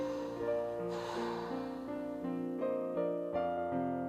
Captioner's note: Laura exhaling